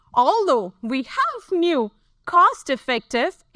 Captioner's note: none